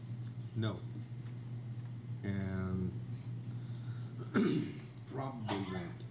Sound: clears throat

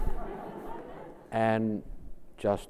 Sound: laughs

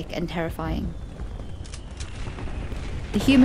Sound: shells explode

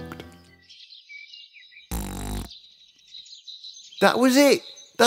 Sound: fart

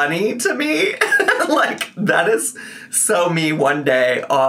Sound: laughs

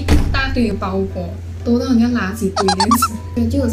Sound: laughs

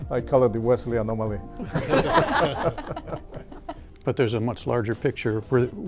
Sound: laughter

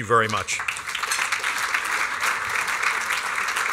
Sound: applause

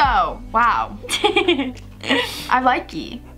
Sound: laughs

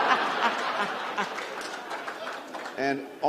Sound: laughter

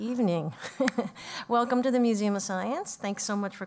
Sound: laugh

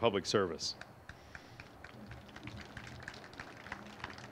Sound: crowd applauds

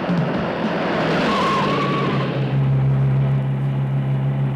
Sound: tires screeching

